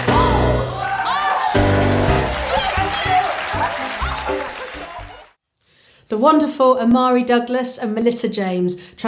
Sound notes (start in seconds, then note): 0.0 cheering